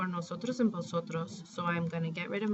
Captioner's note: spanish